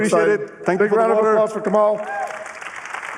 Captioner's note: applause